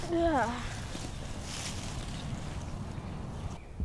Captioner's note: sighs